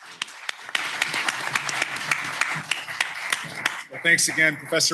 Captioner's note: applause